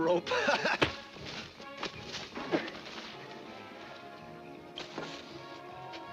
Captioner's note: lively music; laughs; fist thuds